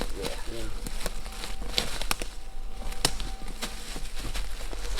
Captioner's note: branches snapping